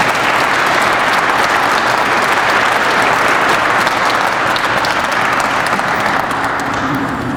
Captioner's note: crowd applauds